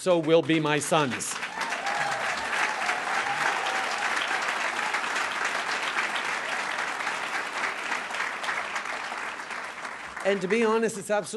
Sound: cheers & applause

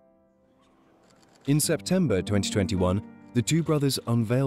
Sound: voiceover

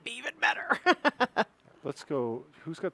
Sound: laughing

